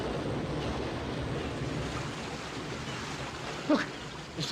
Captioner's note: waves crashing & birds squawking